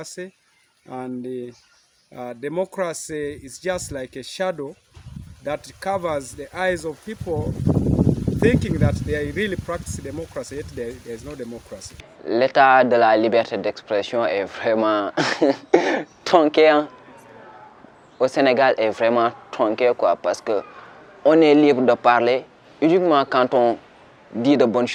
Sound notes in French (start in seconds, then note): 15.2 rire